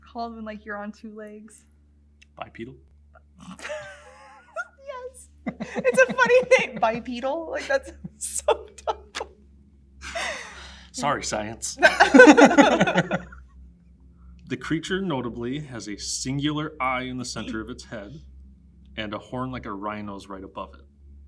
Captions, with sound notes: What's it called when you're on two legs? - Bipedal. - (laughs) Yes. It's a funny thing. Bipedal, that's so dumb. (both laugh) - Sorry, science. (both laugh) "The creature notably has a singular eye in the center of its head, and a horn like a rhinos right above it.